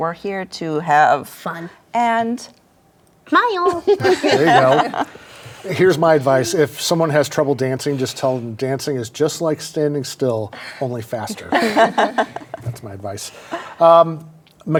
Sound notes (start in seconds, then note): 11.2 guests laugh